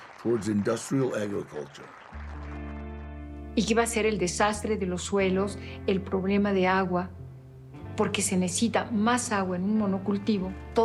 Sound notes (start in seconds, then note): 3.6 in Spanish